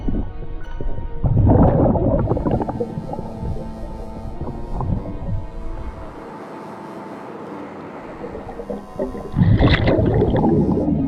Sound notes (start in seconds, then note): 5.3 suspenseful music continues; 5.3 water bubbling